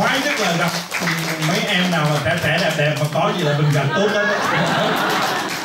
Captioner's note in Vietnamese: cười